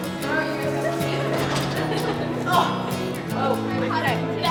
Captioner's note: girls chattering; lighthearted guitar music